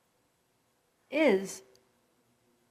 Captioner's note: electronic Voice